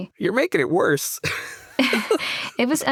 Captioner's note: laughter